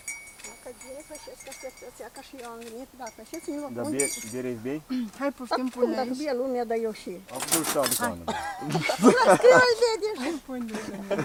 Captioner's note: chattering